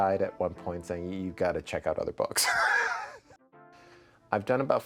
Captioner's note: laughing